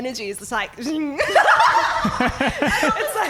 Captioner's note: laughing